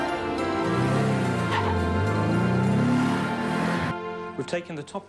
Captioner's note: cheerful music; car engine revving